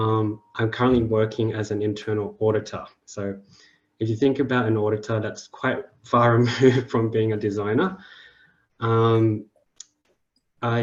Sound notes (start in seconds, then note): 6.4 chuckles